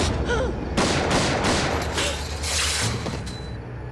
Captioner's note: gunshots